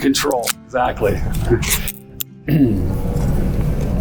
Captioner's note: tin peeling